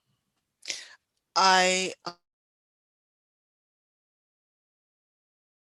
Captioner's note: speech cut out